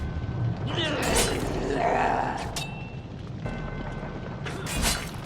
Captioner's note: creature growling; blood squelching; sword whooshing